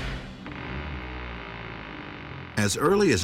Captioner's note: coffin creaking